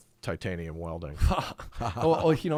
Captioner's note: laughing